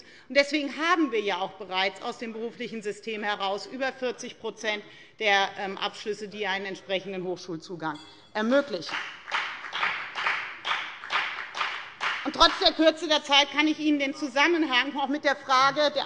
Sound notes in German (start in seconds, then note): 8.8 Beifall bei der FDP